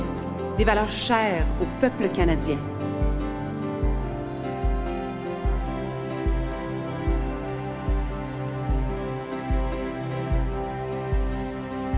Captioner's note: speaking French